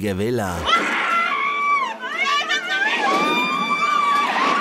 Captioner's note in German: Gekreische